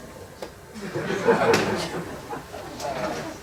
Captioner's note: laughter